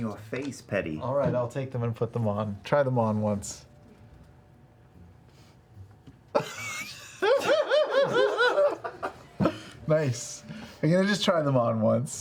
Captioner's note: giggles